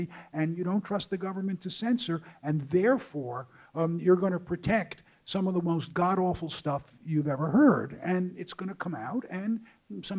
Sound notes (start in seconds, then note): none